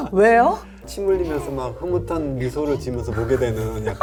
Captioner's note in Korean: 아기 웃음 효과음